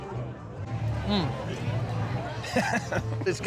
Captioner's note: laughs